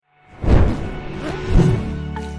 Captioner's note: flame whooshing; uplifting music